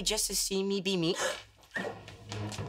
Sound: gasping

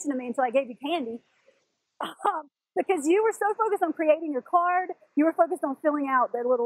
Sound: laugh

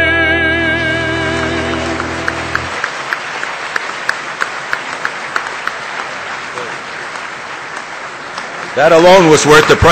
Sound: piano chords; audience applause

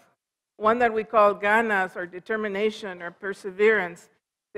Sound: foreign language

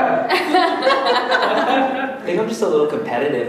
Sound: audience laughing

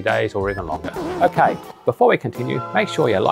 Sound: record scratching

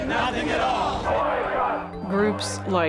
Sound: chanting

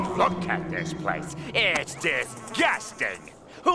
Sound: buzzing

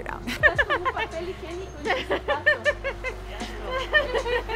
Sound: in Spanish

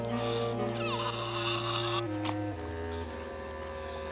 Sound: nasal sounds

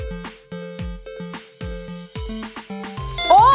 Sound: beep sounds when the heart rate exceeds 100!

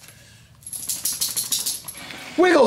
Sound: dog shakes

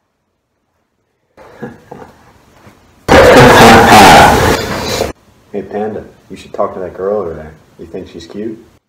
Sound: loud Mic Crack

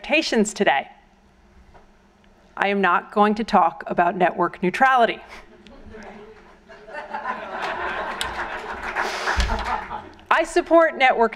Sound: applause

